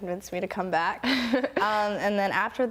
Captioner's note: laughs